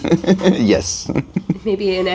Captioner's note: laughs